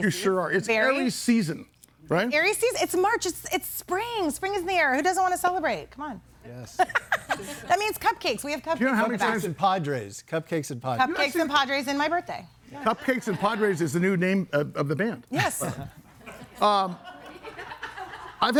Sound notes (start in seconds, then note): 6.8 laughs; 15.4 chuckles; 16.1 audience laughing